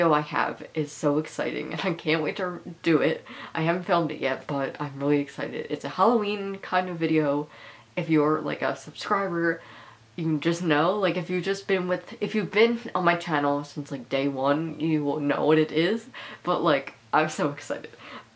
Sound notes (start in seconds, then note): none